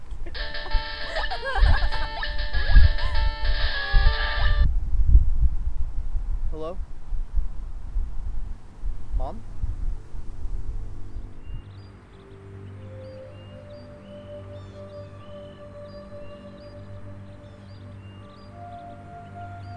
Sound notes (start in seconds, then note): 0.3 phone ringing; 10.4 grim music